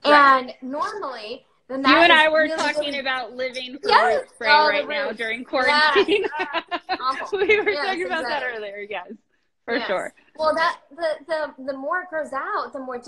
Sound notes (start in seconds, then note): 5.6 laughs